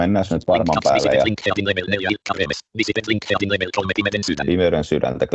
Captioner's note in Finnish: ruudunlukijan puhetta